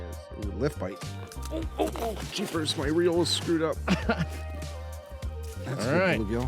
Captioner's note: man laughing